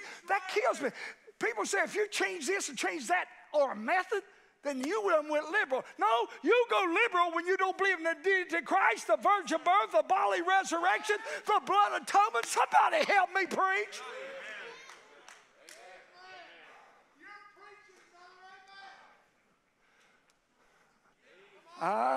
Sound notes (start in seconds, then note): 15.1 congregation cheers